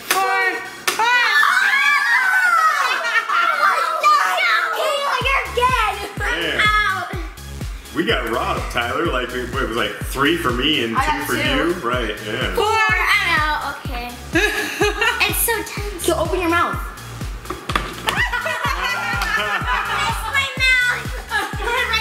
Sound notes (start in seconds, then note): 2.6 all screaming; 17.4 thumping; 18.0 laughing; 21.8 laughs